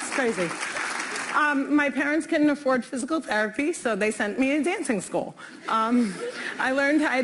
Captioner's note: applause